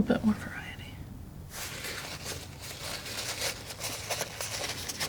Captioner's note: scratching